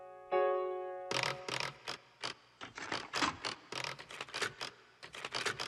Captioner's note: typewriter carriage dings; typewriter carriage rattles; typewriter carriage rasping